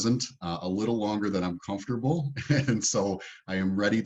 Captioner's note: chuckles